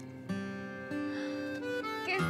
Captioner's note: Aditi gasps